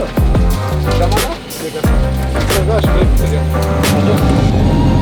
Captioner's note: men chatting